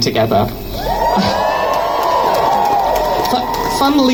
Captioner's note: crowd Cheers